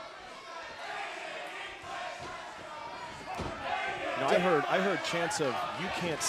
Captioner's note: crowd cheering